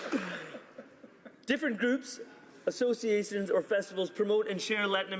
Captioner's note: some Applause